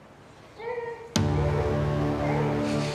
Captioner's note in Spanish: Llanto de bebé